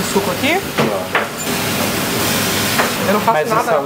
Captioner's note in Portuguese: som de fritura